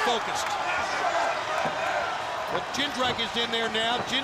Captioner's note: crowd chatter